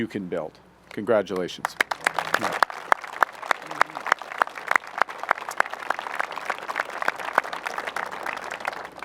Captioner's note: applause